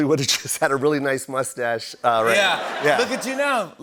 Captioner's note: laughter